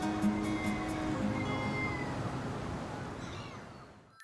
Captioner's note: gentle music; gulls crying